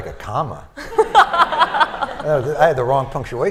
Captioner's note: laughter